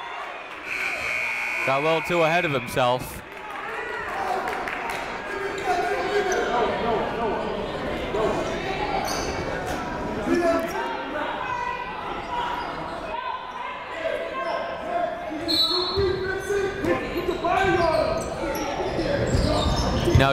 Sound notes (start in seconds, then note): 0.6 buzzer ringing; 4.0 clapping; 6.7 shouting; 10.3 shouting; 15.5 whistle blowing